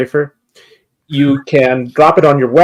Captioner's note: wheezes